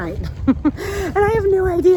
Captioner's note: chuckles